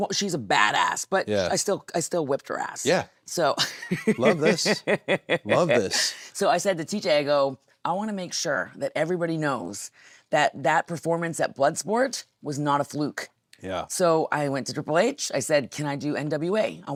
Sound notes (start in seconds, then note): 3.5 Nattie laughing